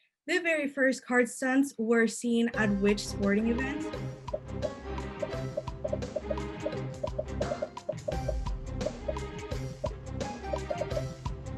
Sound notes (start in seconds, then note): 2.6 upbeat music; 3.9 popping